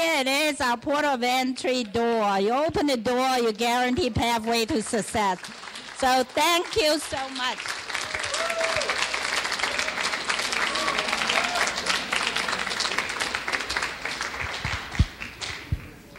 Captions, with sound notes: Here it is, our Port of Entry door. You open the door you guarantee pathway to success, so thank you so much. (clapping) (cheering)